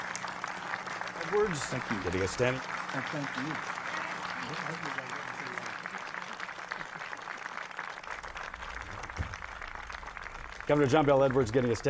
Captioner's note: applause